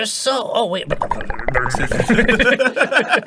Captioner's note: makes bubbling sounds with his mouth